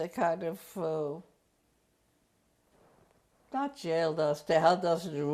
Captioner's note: pauses for 3 seconds